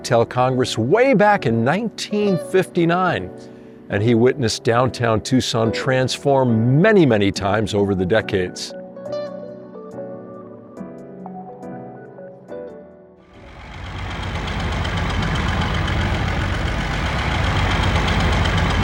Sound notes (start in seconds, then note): 13.3 bus engine running